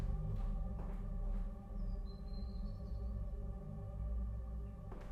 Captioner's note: footsteps fading